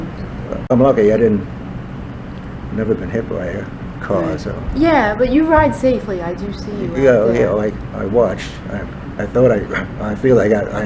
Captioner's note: laughs